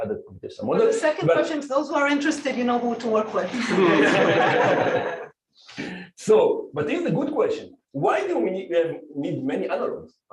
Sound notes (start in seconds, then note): 3.6 laughing